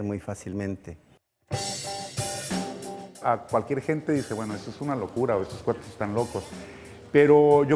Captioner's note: speaking in Spanish w/ English Subtittle; speaking in Spanish w/ English Subtittle